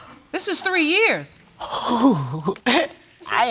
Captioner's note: exhales